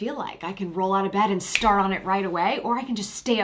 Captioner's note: snaps fingers